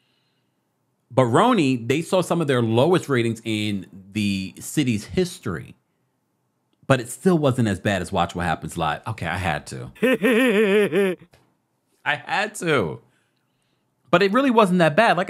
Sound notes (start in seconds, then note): 10.0 plays goofy laugh